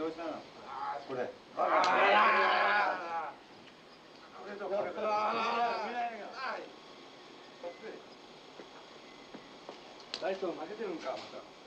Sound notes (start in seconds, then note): 5.8 generator whirring; 9.8 guard speaking japanese